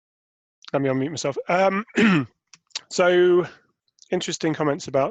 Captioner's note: clearing throat